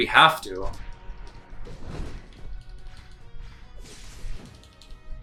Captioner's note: fighting sounds